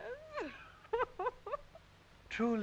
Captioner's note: Audrey laughs